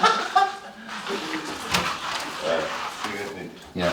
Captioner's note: laughs